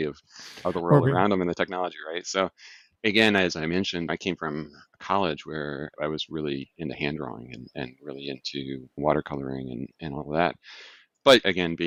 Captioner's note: laughs; chuckling; lip smack; sighs